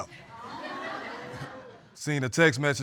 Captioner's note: audience laughs